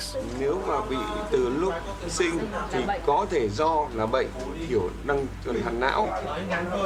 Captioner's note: speaking in foreign language